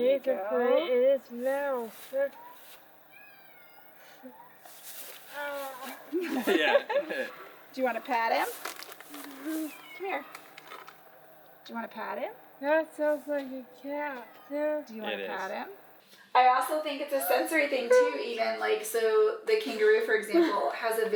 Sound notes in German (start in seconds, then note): 6.1 Mama kichert